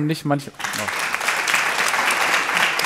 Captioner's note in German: Applaus